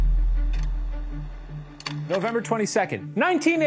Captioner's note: quiet suspenseful music; slide projector clicks